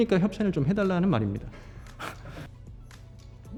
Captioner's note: everyone's laughing again